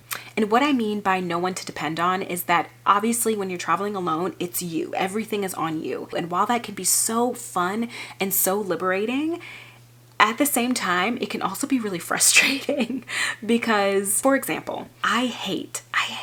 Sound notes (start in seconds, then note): 12.7 chuckling